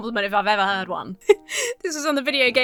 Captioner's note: chuckles